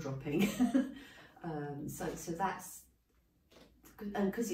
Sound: laughing

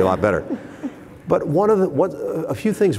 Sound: laughter

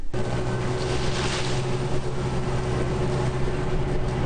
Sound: ATV running

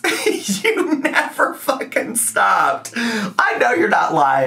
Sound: laughs

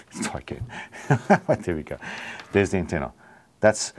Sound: laughs

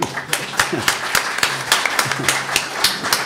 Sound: applause; laughs

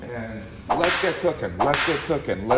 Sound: whip cracking

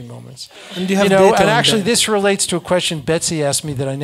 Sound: laugh

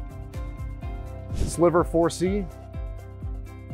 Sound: screen whooshing

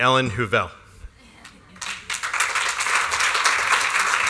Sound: applause

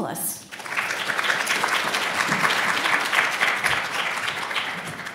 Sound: audience applauds

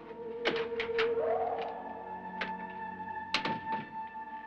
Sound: eerie music; door opens; door closes; eerie music

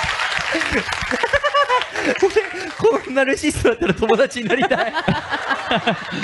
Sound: laughing

